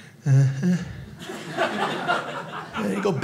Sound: audience laughing

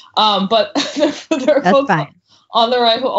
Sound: laughs

